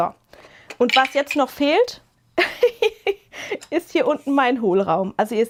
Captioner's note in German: gelächter